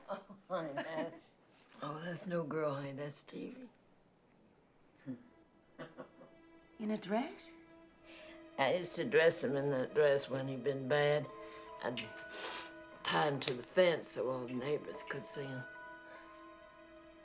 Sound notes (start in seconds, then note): 0.7 chuckling; 5.7 martha chuckles